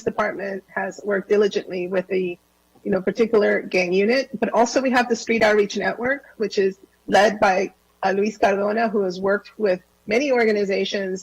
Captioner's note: different language